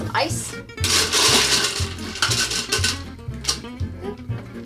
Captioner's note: ice cubes clattering